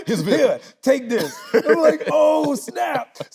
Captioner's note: laughing